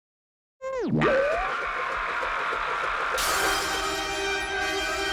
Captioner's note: screams